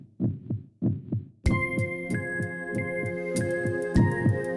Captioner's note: heart beating; closing Music